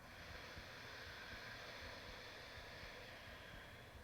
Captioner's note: exhaling